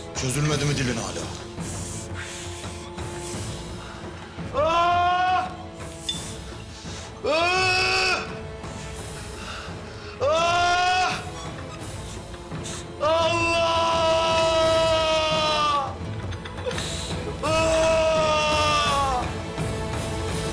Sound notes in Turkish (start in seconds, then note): 4.5 Süleyman acıyla bağırıyor; 6.2 Gerilim müziği